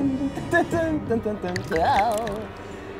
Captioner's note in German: Ekelgeräusche